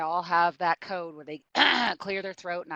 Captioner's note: clears throat